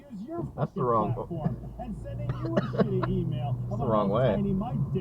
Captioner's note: cough